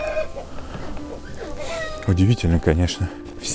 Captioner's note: chickens crowing